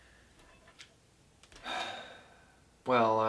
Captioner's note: sigh